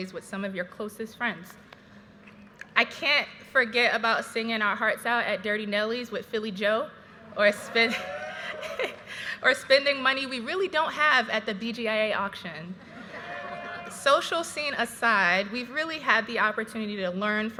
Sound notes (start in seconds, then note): 7.4 graduates cheering; 8.2 chuckling; 13.0 graduates cheering